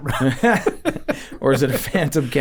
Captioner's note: both chuckling